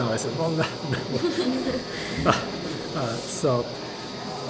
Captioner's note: laughter